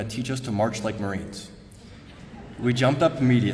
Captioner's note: laughter